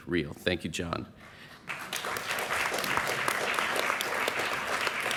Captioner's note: applause